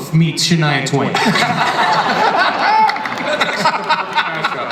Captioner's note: audience and panelists laugh